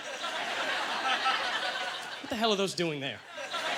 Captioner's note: audience laughter